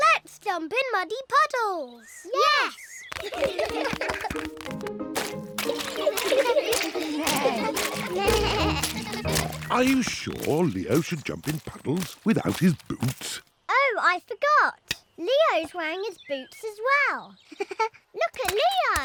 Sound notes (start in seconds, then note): 3.1 all giggling; 7.3 bleating; 17.5 giggles